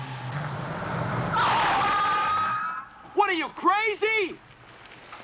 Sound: brakes Squealing

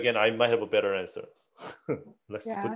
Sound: chuckles

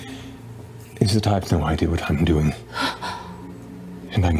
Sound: gasps

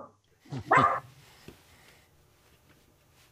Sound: dog barking

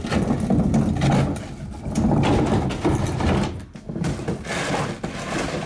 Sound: trash cans grating along pavement

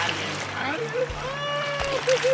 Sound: whooping; fish splashing

